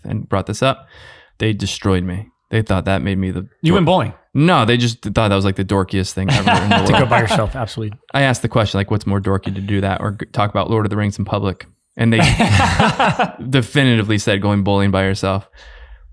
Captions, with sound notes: and brought this up. They destroyed me. They thought that made me look-- - You went bowling? - No, they just thought that was like the dorkiest thing ever in the world. - To go by yourself, absolutely. - I asked the question, Like what's more dorky to do? That or talk about Lord of the Rings in public? (all laughing) And they definitively said, "Going bowling by yourself."